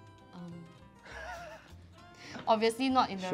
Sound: laughs

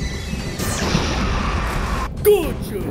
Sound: explosion

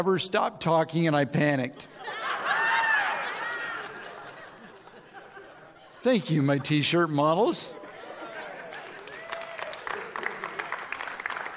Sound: audience laughs

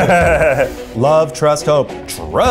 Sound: laughs

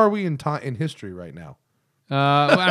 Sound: laughter

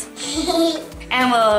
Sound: giggles

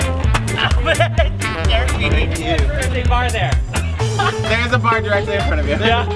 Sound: indistinct chatter

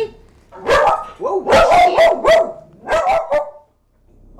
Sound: dog barks

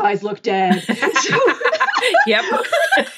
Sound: laughing

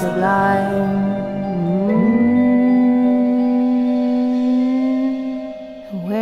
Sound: humming

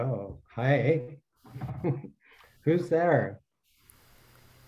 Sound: laughs

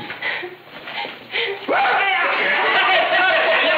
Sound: yelling and laughter

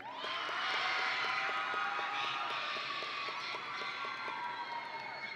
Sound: audience and graduates cheering

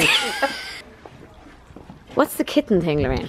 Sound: laughter

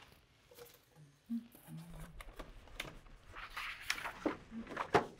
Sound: woman humming

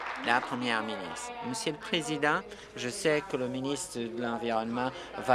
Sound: applause

